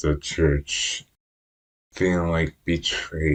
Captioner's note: none